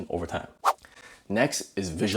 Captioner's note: air whooshing